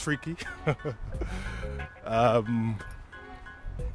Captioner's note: laughs loudly